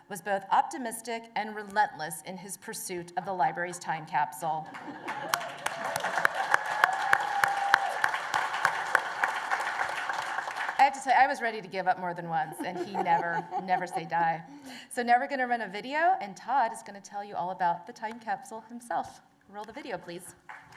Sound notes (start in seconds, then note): 4.6 laughter; 4.7 applause and cheers; 20.4 applause